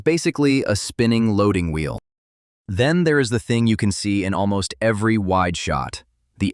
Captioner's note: thoughtful